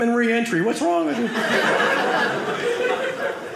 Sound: audience laughing

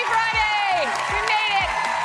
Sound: applause

